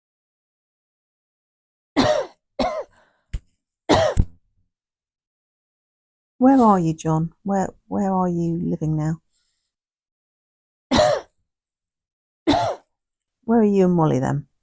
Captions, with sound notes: (Coughing) Where are you, John? Where are you living now? (Coughing) (Coughing) Where are you and Molly then?